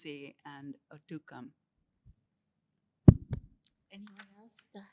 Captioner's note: non-english